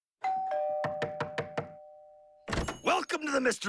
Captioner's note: doorbell rings; knock on door